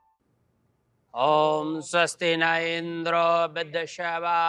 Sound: chant

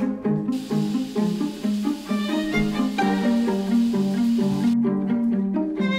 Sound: shower running

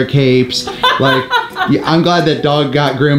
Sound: laughing

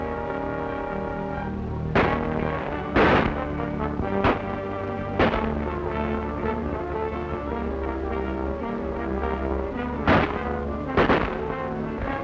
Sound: gunfire

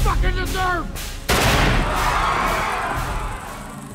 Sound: gunshot; screaming

